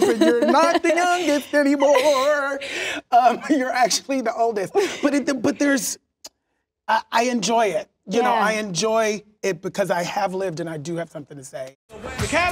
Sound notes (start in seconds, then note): 0.1 sing-song; 4.4 laughs